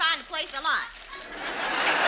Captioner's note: audience laughs